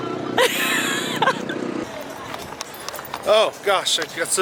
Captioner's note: laughing